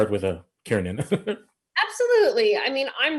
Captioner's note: chuckling